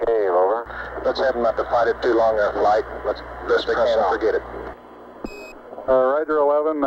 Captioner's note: mission Control Audio